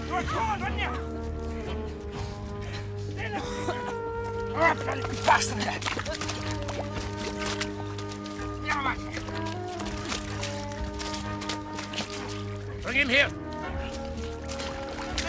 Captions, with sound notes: You're a turd, aren't you? [coughing] You're a bloody bastard, ain't you? [groaning] Bring him here.